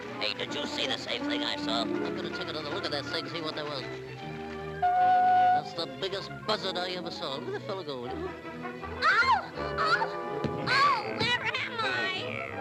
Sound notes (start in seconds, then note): 4.8 pipe toots; 10.4 Olive Oil thuds